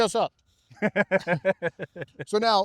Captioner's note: laughing